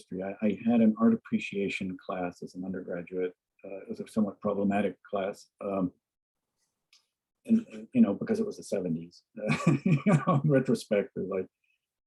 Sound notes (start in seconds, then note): 9.4 laughs